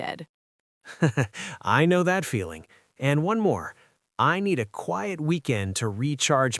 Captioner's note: laughs